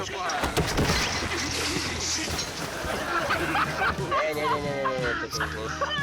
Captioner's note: friends speaking in a foreign language; crashing; friends laughing; friends speaking in a foreign language